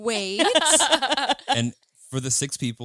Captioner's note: all laughing